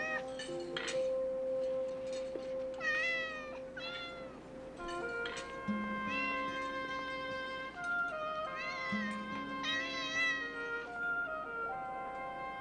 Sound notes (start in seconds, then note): 2.8 meowing